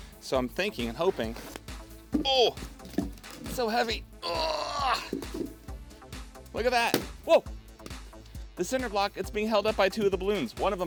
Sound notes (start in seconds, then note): 2.3 grunts; 6.9 balloon pops